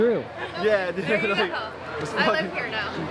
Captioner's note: laughs